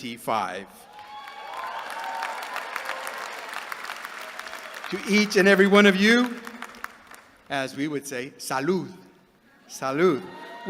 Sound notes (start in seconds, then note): 0.9 applause